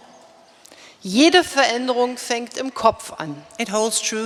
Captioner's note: speaking in German